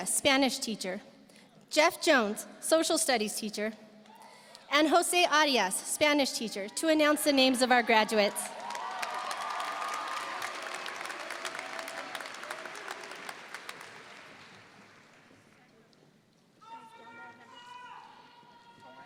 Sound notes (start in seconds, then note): 7.8 audience cheering; 8.4 audience applauding